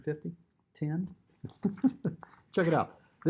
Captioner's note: chuckles